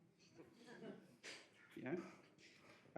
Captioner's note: audience laughs